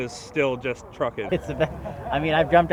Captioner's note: chuckles